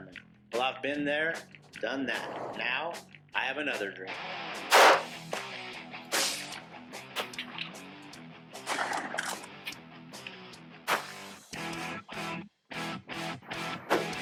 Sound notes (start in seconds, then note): 4.6 gunshots; 10.8 arrow shot